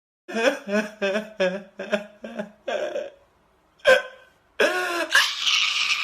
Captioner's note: laughs